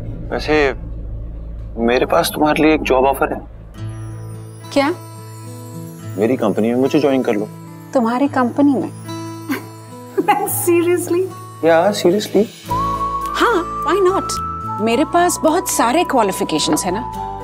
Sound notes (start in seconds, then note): 9.4 laughs